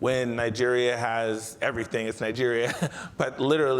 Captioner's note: chuckles